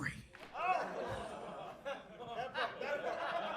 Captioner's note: crowd chuckles